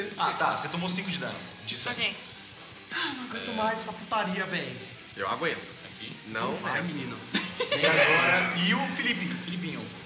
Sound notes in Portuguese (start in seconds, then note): 7.2 Risada